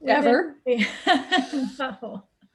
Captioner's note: laughs